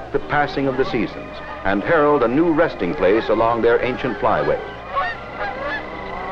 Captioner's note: geese honking